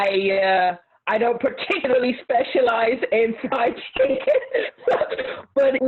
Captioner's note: laughs